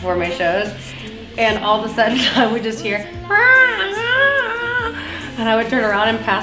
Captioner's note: dog noises